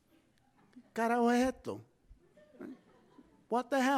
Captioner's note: speaking in foreign language